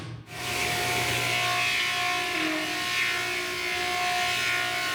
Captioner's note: electric saw whirring